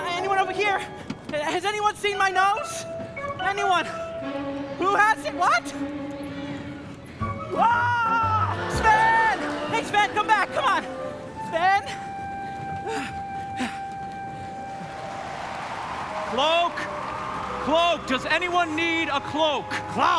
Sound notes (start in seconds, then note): 12.9 Olaf panting